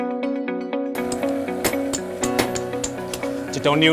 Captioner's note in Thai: เสียงตอกตะขอ